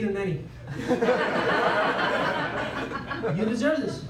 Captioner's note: laughter